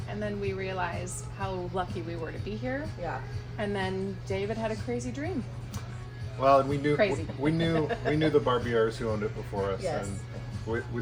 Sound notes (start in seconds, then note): 7.0 chucking